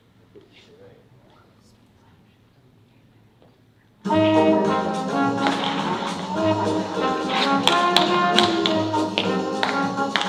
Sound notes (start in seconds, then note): 7.2 tap shoes clicking